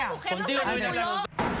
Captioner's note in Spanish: Hablan al unísono